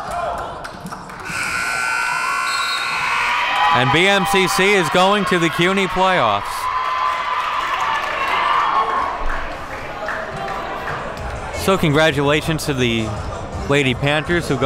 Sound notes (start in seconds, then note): 1.2 buzzer ringing; 6.4 crowd cheering